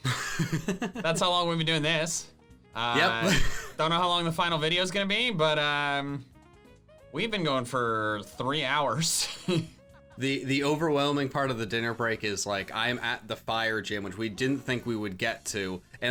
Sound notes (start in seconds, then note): 0.1 laughing; 3.0 laughs